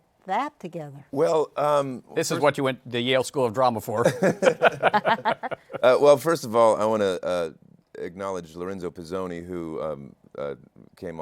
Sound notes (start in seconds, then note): 4.0 laughter